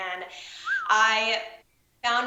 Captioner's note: whistles